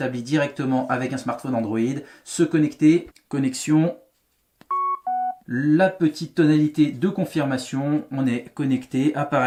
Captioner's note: beep